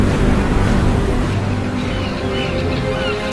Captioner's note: seagulls squawking